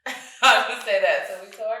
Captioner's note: chuckles